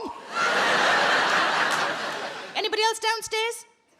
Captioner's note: audience laughs